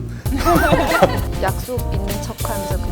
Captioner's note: laughs